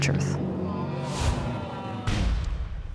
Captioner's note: audience groans